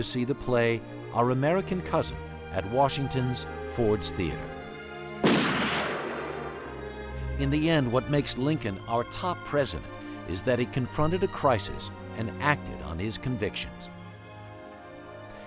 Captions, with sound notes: the play "Our American Cousin" at Washington's Ford's Theater. [gunshot] In the end, what makes Lincoln our top president is that he confronted a crisis and acted on his convictions.